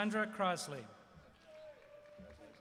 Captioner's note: applause